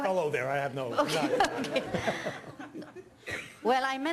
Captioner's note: audience laughing